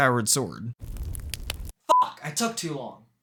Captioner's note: fire Sounds